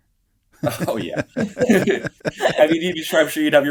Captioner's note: laughs